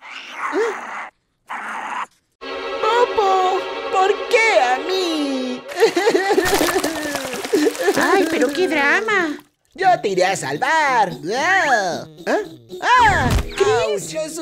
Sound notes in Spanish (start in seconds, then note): 0.2 sonido agudo de mono; 5.2 Llora